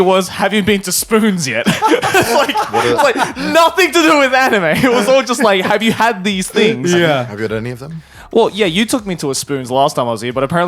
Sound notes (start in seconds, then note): 1.6 all laughing